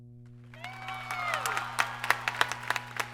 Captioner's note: applause